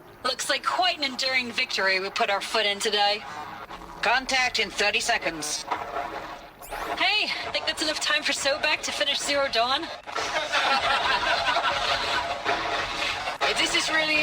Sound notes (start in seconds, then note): 10.1 laughter